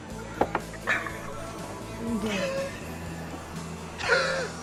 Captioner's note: gasping